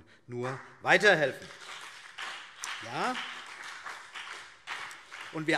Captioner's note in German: Beifall BÜNDNIS 90/DIE GRÜNEN